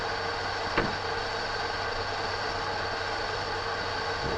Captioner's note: wood thuds